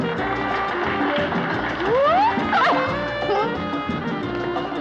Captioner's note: applause; laughing